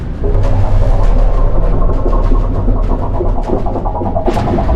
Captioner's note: water bubbling